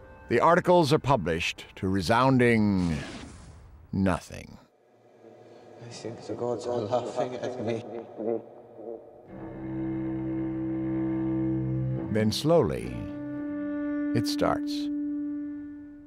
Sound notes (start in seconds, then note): 6.4 <i> voice echoing</i>